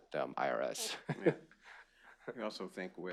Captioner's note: laughs